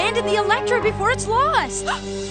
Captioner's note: gasp